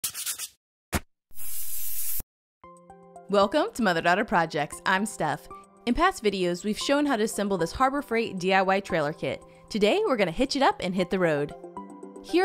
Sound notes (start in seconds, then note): 0.0 pencil scribbling; 1.3 spray can spraying